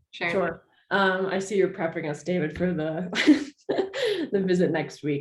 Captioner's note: chuckles